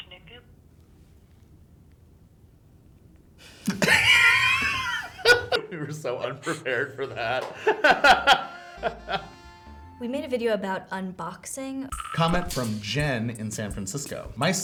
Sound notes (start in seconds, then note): 3.6 laughing